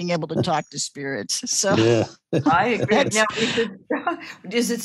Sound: laughing

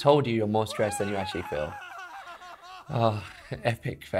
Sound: man screaming

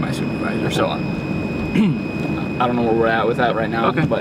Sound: clears throat

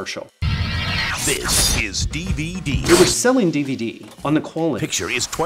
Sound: In Don LaFontaine voice

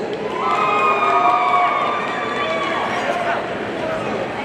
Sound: audience cheering

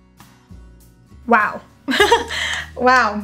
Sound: laughing

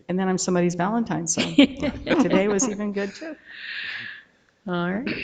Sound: board members laughing

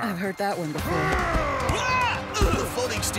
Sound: growling

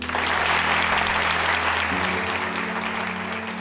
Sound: clapping

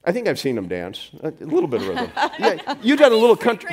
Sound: laughs loudly

